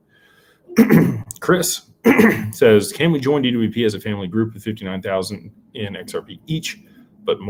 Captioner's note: clears throat